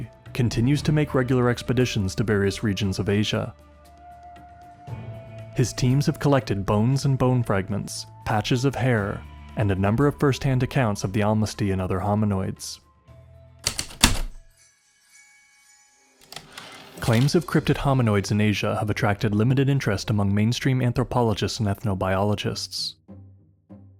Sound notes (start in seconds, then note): 13.6 heavy typewriter keystrokes, light chimes, return slide